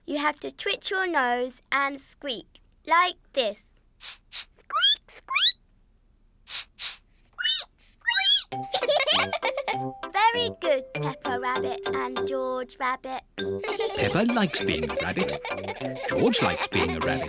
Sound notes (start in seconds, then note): 4.0 sniffs and squeaks; 6.4 both sniff and squeak; 9.7 giggling; 13.6 all giggle